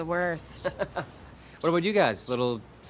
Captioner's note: laughs